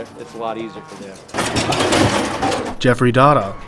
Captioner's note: metal rattling